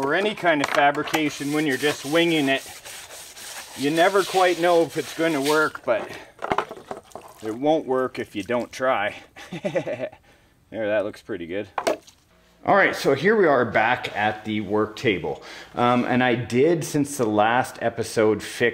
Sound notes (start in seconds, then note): 9.3 laughs